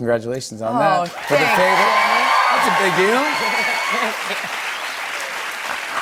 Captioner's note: cheers and applause